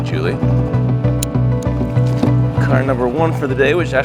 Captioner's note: fastener clicking